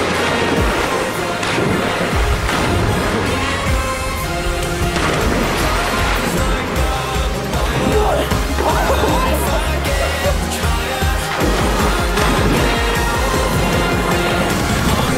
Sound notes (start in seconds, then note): 9.0 laughing